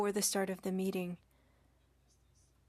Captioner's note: speaking French